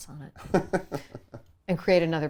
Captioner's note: laughs